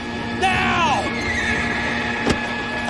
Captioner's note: horse neighs